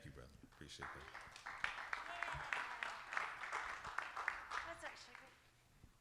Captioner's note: audience applauding